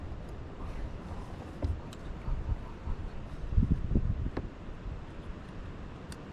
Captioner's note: quietly